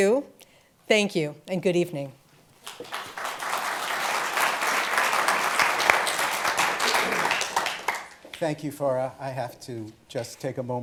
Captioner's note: applause